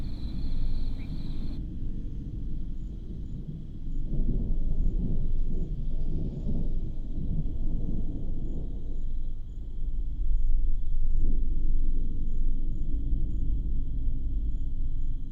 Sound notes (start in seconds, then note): 0.0 crickets chirping; 0.0 thunder rumbling; 1.7 crickets chirping; 1.7 soft, eerie music